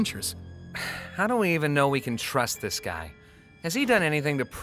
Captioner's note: sighs